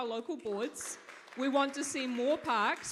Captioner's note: audience claps